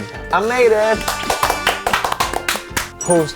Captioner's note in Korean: 칭찬의 박수